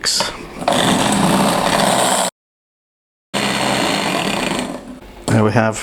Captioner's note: beating again